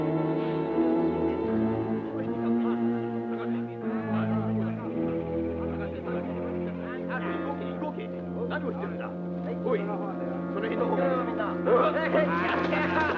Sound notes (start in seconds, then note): 3.8 Japanese troops chattering